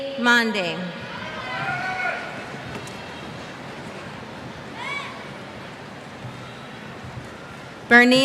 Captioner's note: cheers